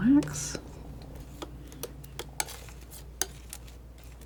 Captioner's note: scratching